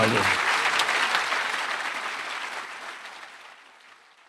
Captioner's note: audience applauds